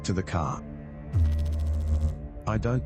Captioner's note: electrical noise